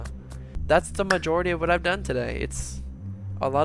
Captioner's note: clap mid-sentence